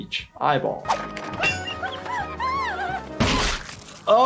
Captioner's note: Giggles shrieking